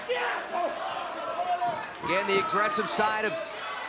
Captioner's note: crowd chatter